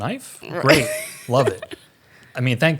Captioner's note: laughs